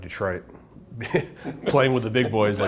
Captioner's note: both chuckle